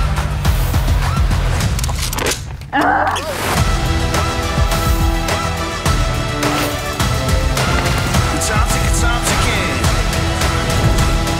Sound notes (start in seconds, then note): 0.3 bright upbeat music; 2.7 cyclist grunting